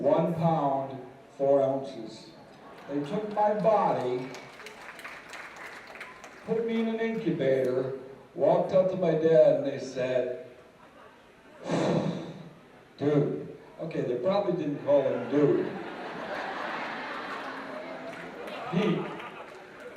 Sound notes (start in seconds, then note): 5.0 applause; 11.6 sigh; 16.3 laughter